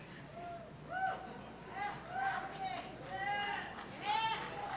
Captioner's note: crowd cheering